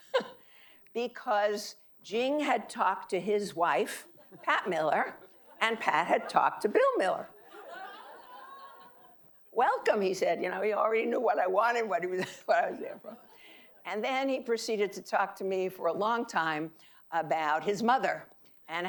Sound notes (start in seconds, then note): 7.2 audience laughing